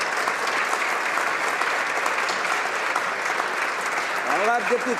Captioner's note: applause